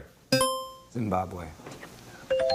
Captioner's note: buzzer chimes